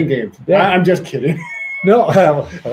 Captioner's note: laughs